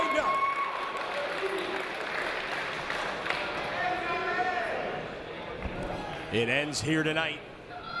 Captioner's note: applause